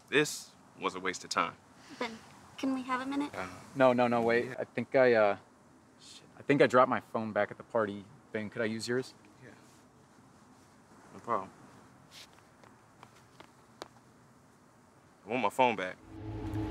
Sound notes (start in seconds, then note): 12.9 footsteps